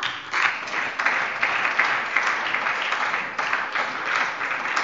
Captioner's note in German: Beifall bei der SPD